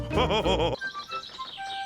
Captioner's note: all laughing